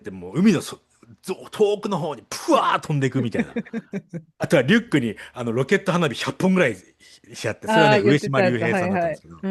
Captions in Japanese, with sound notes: [笑い] 100 本ぐらいし合って、それはね、上島平さんだったんですけど、